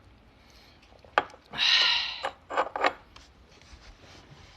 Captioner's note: s i g h